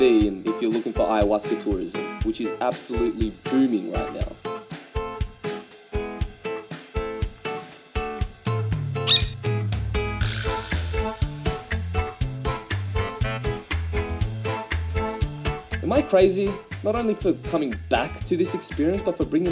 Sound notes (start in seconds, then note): 9.0 chirping